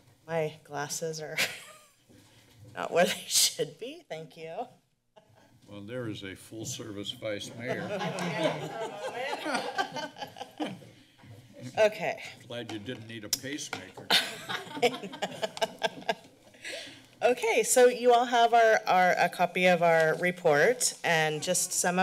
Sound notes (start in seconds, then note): 1.5 laughs; 7.5 laughter; 14.0 laughter